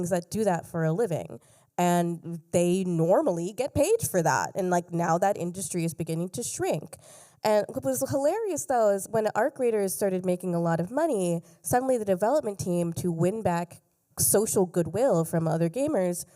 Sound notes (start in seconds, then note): none